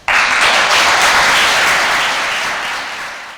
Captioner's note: applause